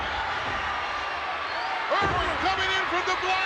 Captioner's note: crowd cheers